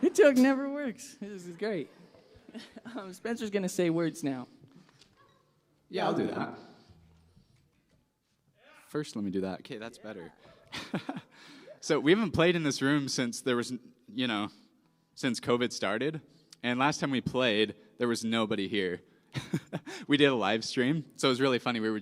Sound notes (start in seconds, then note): 5.9 altered, robotic voice